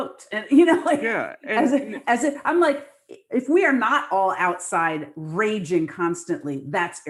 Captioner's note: laughs